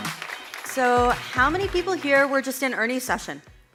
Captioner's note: audience applauds